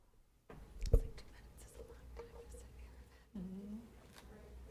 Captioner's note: chatter